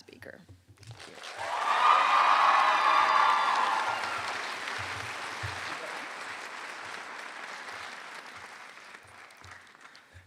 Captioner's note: applause